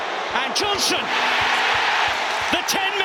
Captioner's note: crowd erupts